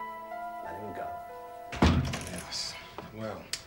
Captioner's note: door clicking